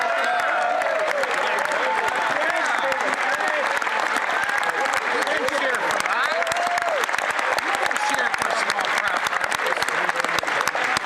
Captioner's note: some Applause